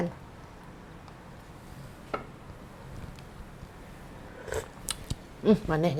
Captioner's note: slurping taste test